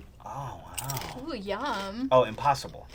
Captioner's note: nachos crunching